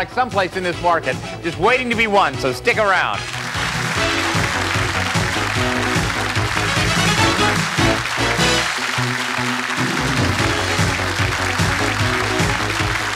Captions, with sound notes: someplace in this market, just waiting to be won. So stuck around. (applause) (upbeat music)